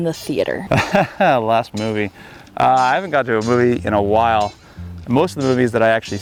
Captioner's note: laughs